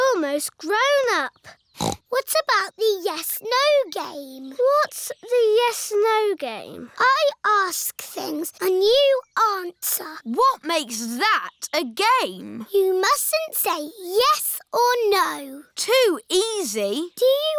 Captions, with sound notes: We're almost grown up. (SNORTS) What about the Yes-no game? What's the Yes-no game? I ask things and you answer. What makes that a game? You mustn't say "yes" or "no". Too easy.